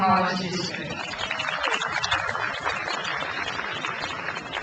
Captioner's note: crowd applauds